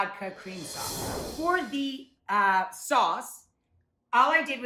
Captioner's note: transition whooshes